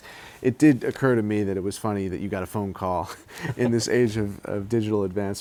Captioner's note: laughs